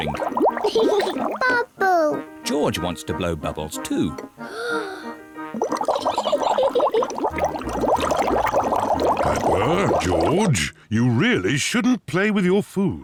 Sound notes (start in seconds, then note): 0.1 laughs; 4.4 takes big breath; 6.0 giggles